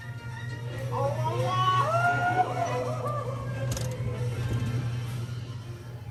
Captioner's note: Card soldier yelling